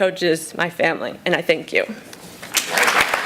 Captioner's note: applause!